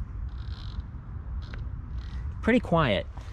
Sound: bicycle spinning

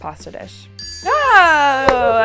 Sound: bell dings

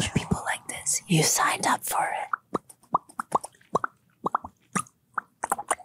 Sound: mouths popping

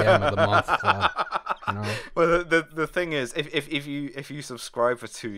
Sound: laughing piratically

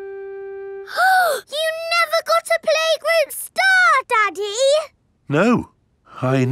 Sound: gasps

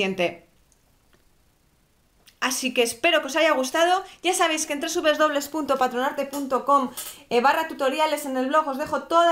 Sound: Spanish

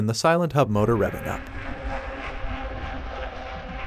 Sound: motor Sound

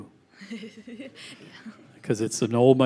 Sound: chuckles

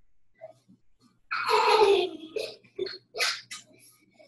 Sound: child laughs

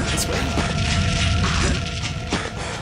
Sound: fire shooting

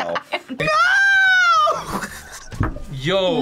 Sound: laughs

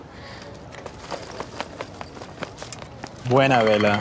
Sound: running footsteps

